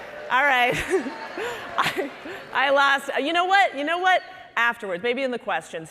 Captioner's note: laughing